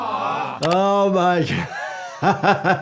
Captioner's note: laughs